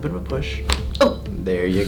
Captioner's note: cracking noise